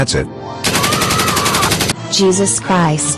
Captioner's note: Richard shooting and Peter screaming in pain until his death